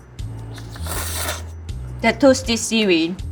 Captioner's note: food slurping